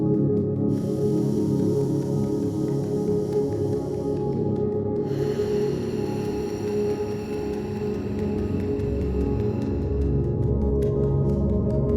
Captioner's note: breath and tapping chest